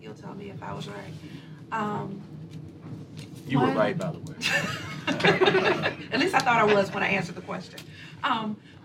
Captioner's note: laughter